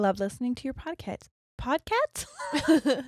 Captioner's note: laughing